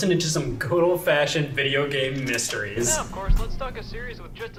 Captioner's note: Scott on tape player